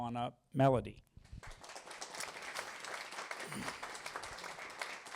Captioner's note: applause